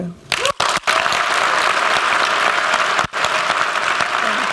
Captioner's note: applause